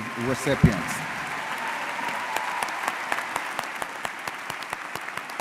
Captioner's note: audience cheering and applauding